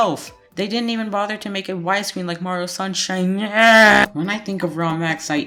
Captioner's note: scream